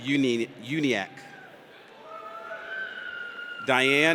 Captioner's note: audience cheers